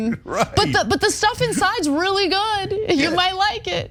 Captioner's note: laugh